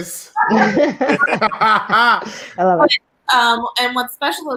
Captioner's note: laughing loudly